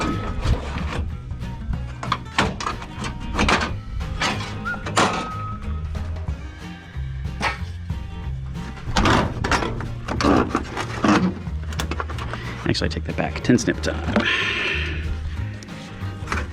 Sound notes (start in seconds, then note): 0.0 squeaky metal noises; 7.1 metal hits ground off screen; 8.5 squeaky metal noises